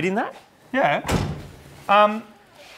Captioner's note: door closes